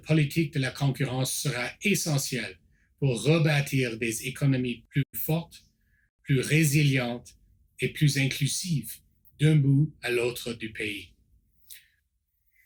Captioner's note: repeats in French